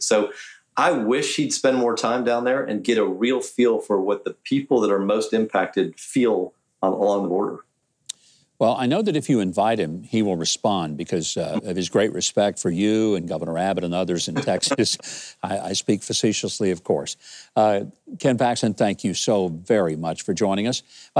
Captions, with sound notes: So I wish he'd spend more time down there, and get a real feel for what the people that are most impacted feel along the border. - Well, I know that if you invite him, he will respond because of his great respect for you, and governor Abbott and others in Texas. (laughing) I speak facetiously, of course. Ken Paxton, thank you so very much for joining us.